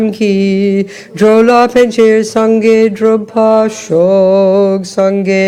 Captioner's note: French